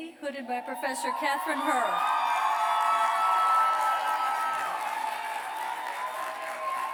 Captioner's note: cheers and applause